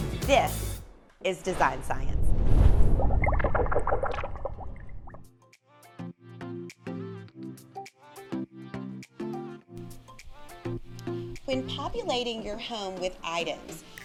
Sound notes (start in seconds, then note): 2.9 bubbling; 5.8 ambient music